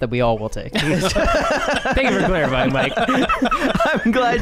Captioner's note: laughter